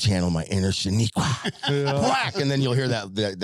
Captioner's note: laughing